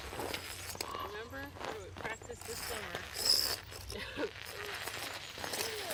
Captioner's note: chuckles